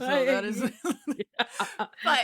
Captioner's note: laughing